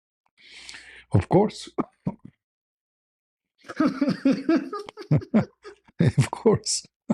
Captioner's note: laughter